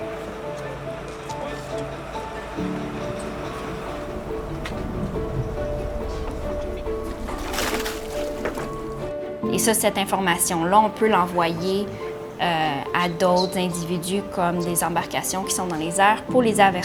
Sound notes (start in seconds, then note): 0.2 suspenseful music; 7.6 water splashing; 9.5 speaking in a foreign language